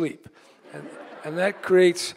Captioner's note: laughter